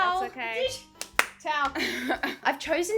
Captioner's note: clapping